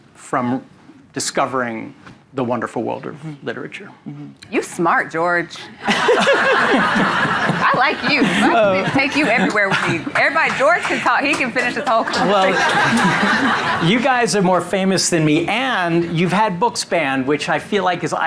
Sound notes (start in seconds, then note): 5.8 audience laughing; 13.7 audience laughing